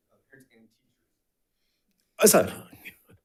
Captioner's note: faintly speaking